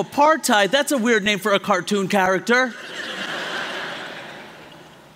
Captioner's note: laughter